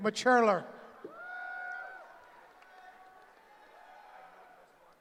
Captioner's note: cheering